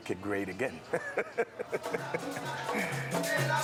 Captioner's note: laughter